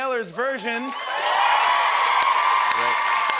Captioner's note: cheering and applause